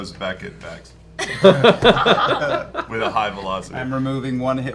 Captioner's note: laughter